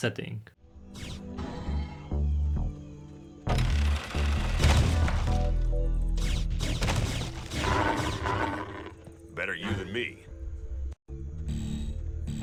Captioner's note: showcase of various game sounds